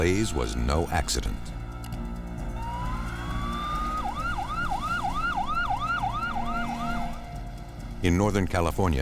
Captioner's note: sirens